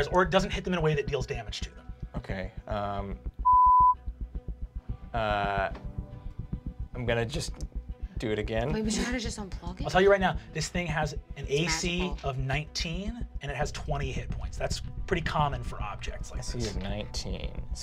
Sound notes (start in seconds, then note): 3.4 beep